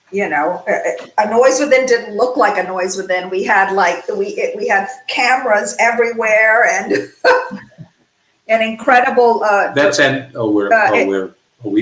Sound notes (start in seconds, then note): 6.8 chuckles